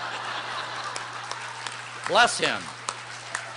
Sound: laughter

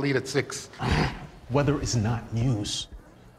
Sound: grunts

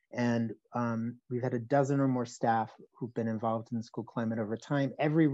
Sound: none

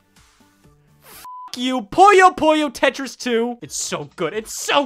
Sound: beep

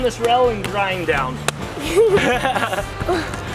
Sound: and Dad laugh

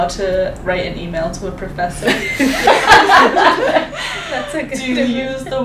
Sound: all laughing

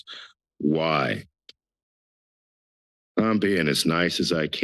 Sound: pause

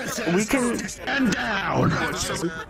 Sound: yelling

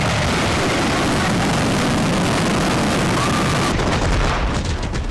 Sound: headphones explode

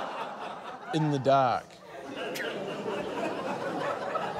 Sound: laughter

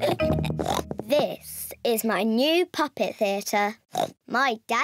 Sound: oinks

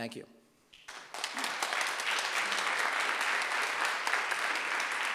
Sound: audience applauding

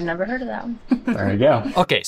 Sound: chuckles

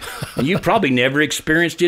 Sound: laughing

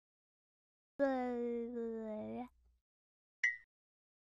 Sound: baby Babbling sounds

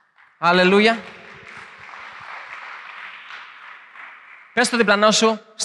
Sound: applause

